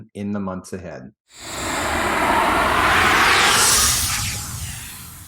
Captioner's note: graphic swooshes